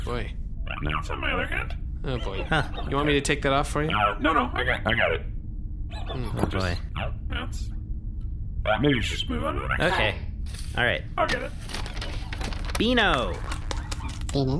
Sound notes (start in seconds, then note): 2.5 straining